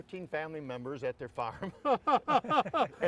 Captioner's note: all laughing